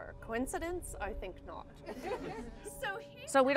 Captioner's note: crowd laughs